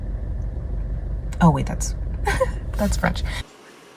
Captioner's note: laughs